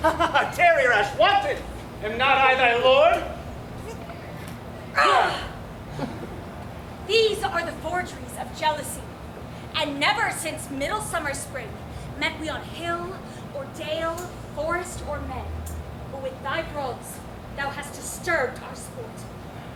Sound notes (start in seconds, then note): 0.0 laughs; 4.9 Titania groans